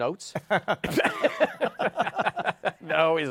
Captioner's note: laughter